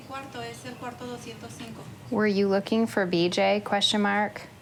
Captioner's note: speaking Spanish